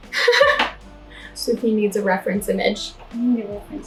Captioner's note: laughing